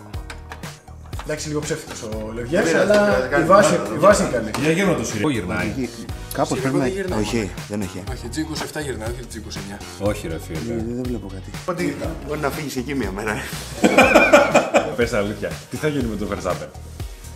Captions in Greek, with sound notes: - Εντάξει, λίγο ψεύτικος ο λεβιές. - Δεν πειράζει. - Η βάση είναι καλή. Κ- Για γύρνα το. Γυρνάει εκεί; - Κάπως πρέπει να γυρνάει, όχι; Δεν έχει; -G27 γυρνάει όχι G29. - Όχι ρε φίλε! - Δε βλέπω κάτι. Μπορεί να φύγεις εκεί μια μέρα. [γέλια] Πες αλήθεια, τι θα γίνει με τον Verstappen;